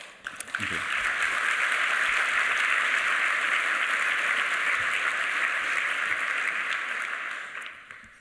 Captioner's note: applause